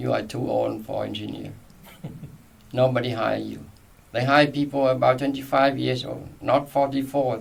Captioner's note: laughs